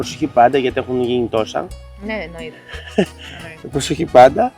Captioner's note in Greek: γέλια